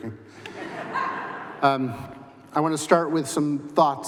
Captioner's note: laughter